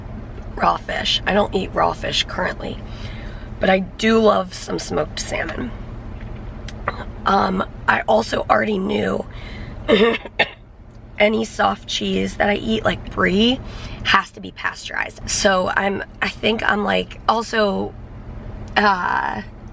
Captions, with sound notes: raw fish. I don't eat raw fish currently, but I do love some smoked salmon. Um, I also already knew... [coughing] Any soft cheese that I eat, like brie, has to be pasteurized. So I'm, I think I'm like, also, uh...